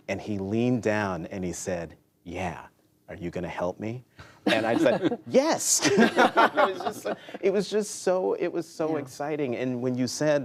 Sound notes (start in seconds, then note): 5.8 laughter